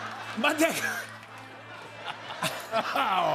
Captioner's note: laughs